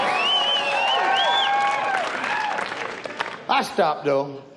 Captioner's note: audience cheers